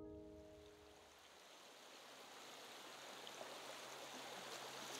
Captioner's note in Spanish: Agua fluyendo